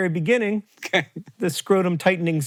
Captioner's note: laughs